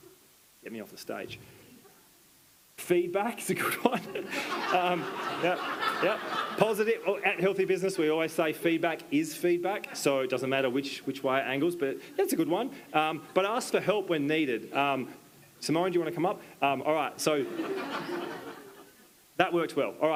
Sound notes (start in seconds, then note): 3.6 attendees laughing; 3.6 laughs